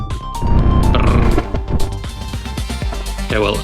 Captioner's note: glitchy sound